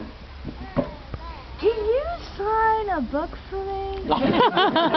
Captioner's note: audience laughs